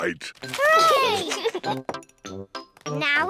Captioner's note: giggles